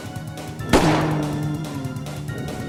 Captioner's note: zombie rale; gunshot; zombie rale